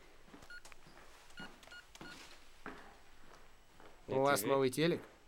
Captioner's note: dialing